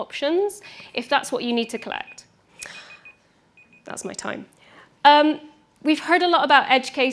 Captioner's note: beeping sound